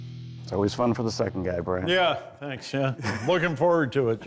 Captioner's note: chuckles